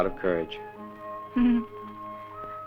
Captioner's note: laughs